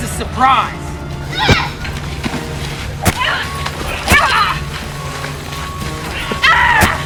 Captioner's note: Kody grunting; kick thuds